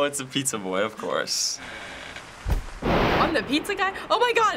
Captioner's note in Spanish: Puerta cruje, los accidentes de trueno